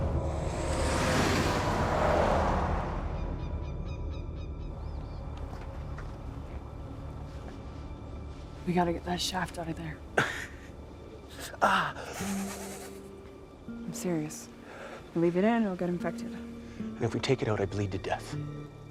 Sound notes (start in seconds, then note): 12.0 laughs; 12.2 winces